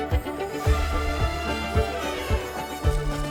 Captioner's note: elephant trumpeting can be heard; lego shuffling noises can be heard